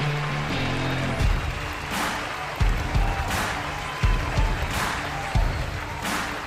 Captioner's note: crowd cheering; upbeat rock music